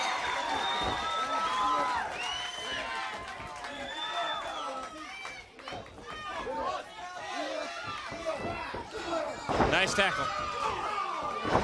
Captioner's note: crowd chatter